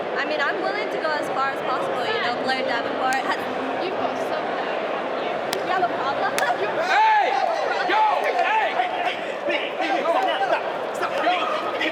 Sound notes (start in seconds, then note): 6.4 Roxanne yelping; 8.2 people chattering